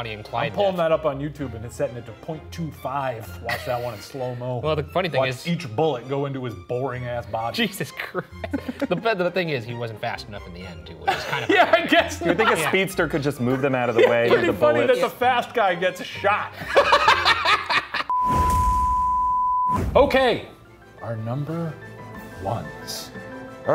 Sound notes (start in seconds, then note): 8.0 chuckling; 16.5 laughing; 18.1 graphic beeping